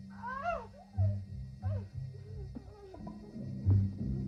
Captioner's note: Kinojo moaning